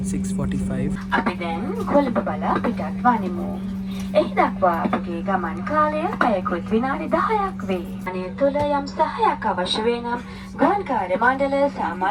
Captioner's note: inflight announcement